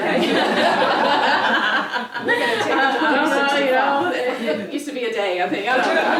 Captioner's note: laugh